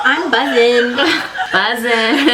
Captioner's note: laughs; both laugh